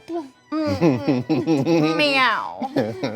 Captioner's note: laughing